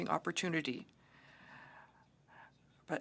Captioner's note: speaking French